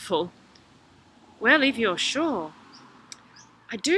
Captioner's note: Bride of the Sea voice